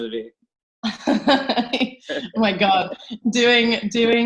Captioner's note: both laugh